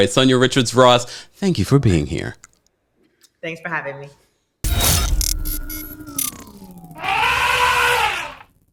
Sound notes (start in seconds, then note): 4.7 eerie whirring; 6.9 elephant trumpeting